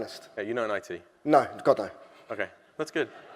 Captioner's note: chuckling softly